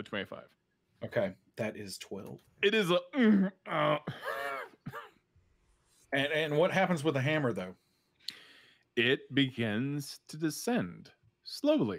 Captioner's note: groaning sounds